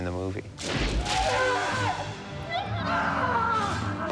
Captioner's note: shouting